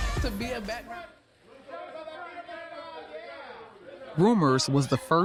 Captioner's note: photographers shouting